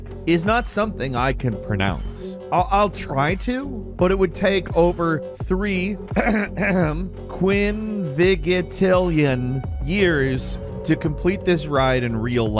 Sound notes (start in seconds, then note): 6.1 clears throat